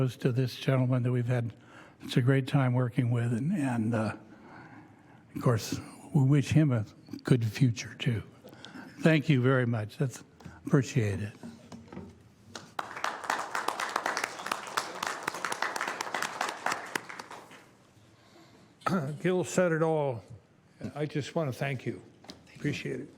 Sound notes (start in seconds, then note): 12.5 applause